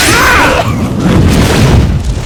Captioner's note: coughs